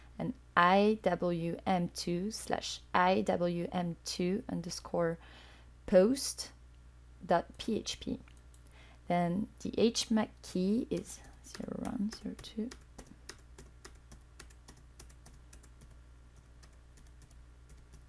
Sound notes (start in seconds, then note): 11.5 typing